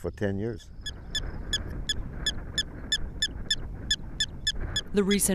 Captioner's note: prairie dog squeaking